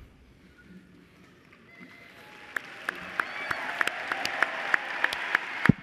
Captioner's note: cheers and applause